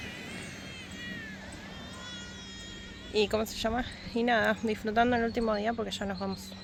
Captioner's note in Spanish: lloros